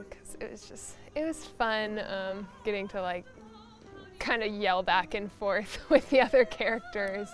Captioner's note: laughs